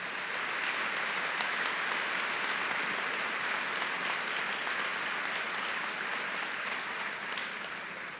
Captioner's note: applause